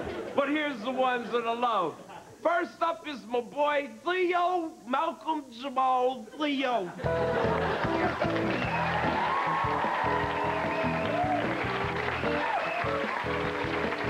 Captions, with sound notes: BUT HERE'S THE ONES THAT I LOVE. FIRST UP IS MY BOY THEO, MALCOLM-JAMAL, THEO. [AUDIENCE CHEERING AND APPLAUSE]